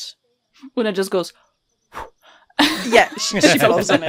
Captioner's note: blows out quickly